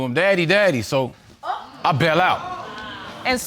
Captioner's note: audience exclaims